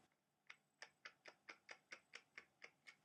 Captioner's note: click, click sound